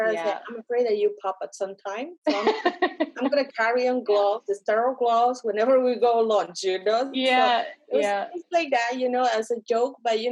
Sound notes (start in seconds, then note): 2.3 laughs